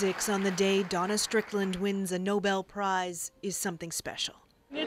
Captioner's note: applause